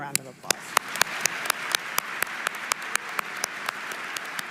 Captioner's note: audience applauding